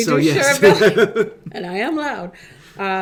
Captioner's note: laughs